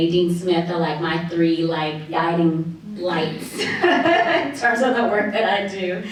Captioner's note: laughs